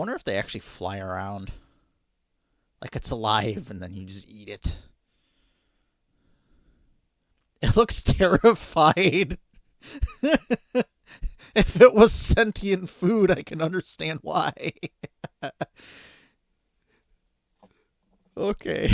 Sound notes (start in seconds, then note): 9.8 laughing